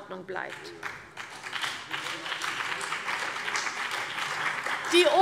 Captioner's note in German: Beifall CDU und BÜNDNIS 90/DIE GRÜNEN